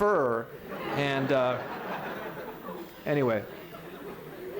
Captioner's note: laughter